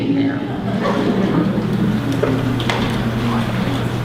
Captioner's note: laughter